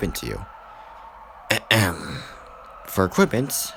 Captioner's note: clears throat